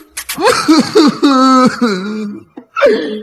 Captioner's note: Cough cough cough